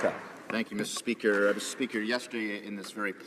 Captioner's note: some Applause